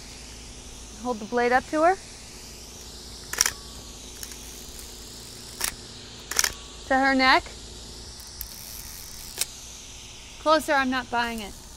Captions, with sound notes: Hold the blade up to her. (camera clicking) to her neck. Closer, I'm not buying it.